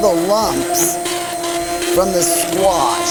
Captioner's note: mixer vibrating